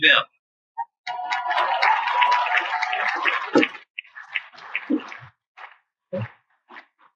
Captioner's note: cheers and Applause